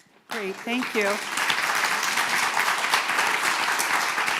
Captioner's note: applause